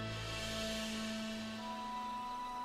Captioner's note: none